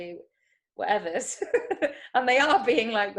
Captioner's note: chuckles